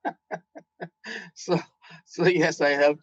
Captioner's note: laughing